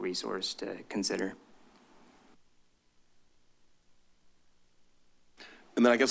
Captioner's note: silence